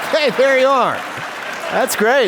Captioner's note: applause